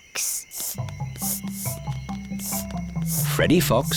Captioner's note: sniffing